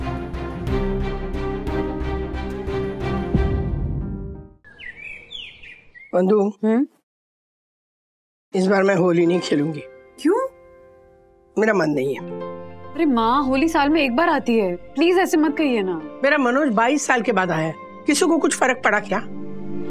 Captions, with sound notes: [tense music playing] [birds chirping] - Vandana... - Hmm? I will not play Holi this year. Why? I don't feel like. Mom, Holi is once in a year festival. Please, don't say that. Manoj has returned after 22 years. Does it matter to anybody here?